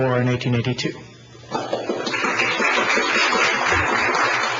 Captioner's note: audience applauding